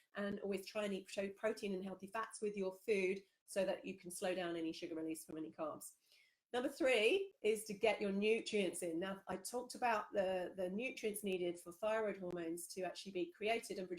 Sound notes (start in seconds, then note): none